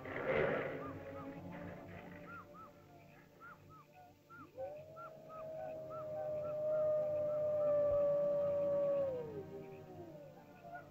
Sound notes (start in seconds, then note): 0.0 growling sounds; 0.0 ominous music; 1.1 animal chirps; 4.4 animal howls; 4.5 ominous music